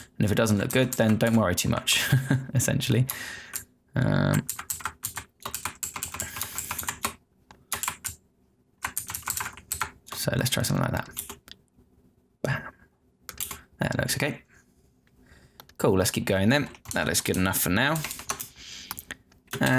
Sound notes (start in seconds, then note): 2.0 laughing